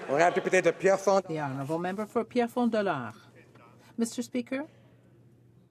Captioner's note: some Applause